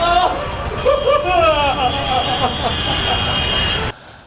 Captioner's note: Marshall sobbing